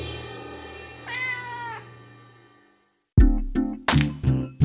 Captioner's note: cat meows; upbeat music